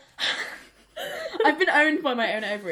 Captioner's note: laughs